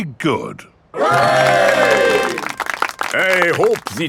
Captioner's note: clapping